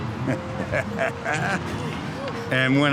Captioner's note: laughter